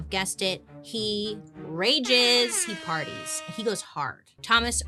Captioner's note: hip-hop air horn blowing